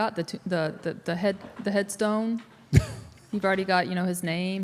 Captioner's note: Mark chuckles